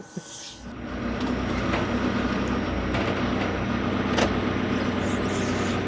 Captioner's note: both laughing; forklift engine rumbling